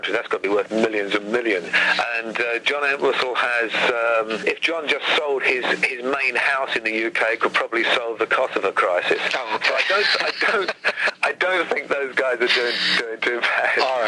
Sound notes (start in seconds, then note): 9.2 men laughing